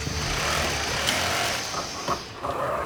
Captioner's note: machines buzzing